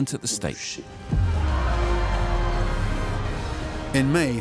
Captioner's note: crowd cheers